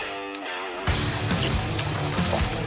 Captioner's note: slurp